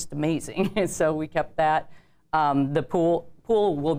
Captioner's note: laughs